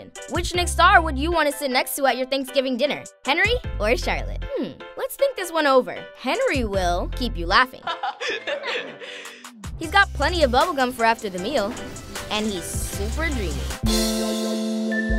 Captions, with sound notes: Which Nick star would you want to sit next to at your Thanksgiving dinner? Henry or Charlotte? Hmm, let's think this one over. Henry will keep you laughing. [laughing] He's got plenty of bubble gum for after the meal. And he's super dreamy.